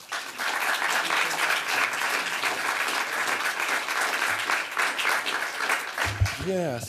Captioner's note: applause